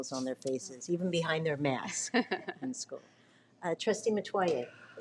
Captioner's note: speaks faintly